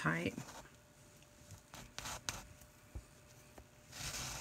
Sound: cloth scratching

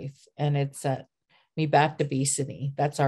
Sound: speaking siksika

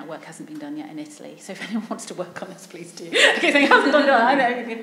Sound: laughs

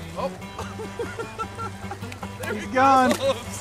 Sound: both Laughing

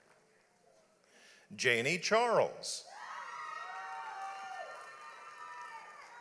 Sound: audience applauds

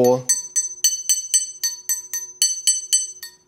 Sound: various rattling

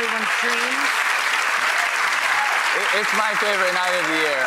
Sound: applause

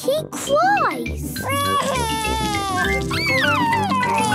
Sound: crying

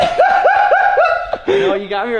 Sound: laughing

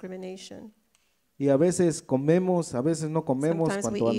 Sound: speaks in foreign language

